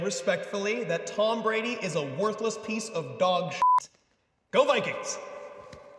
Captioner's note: beep